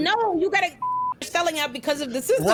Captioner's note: beep